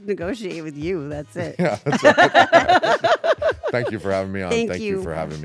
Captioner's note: laugh